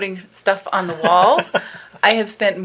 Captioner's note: laughing